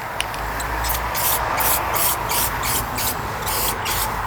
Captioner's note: spray hissing